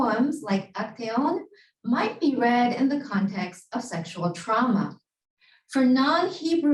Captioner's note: Hebrew